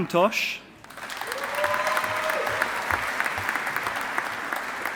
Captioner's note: audience applauding